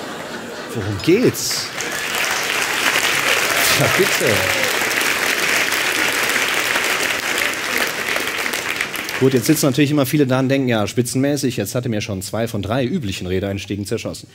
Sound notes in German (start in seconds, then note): 2.6 Applaus